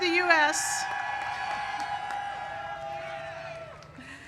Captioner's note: cheers